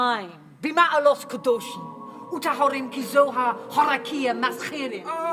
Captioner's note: speaking Hebrew